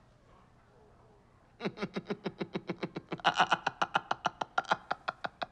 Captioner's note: laughing